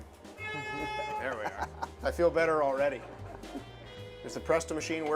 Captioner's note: horn bleats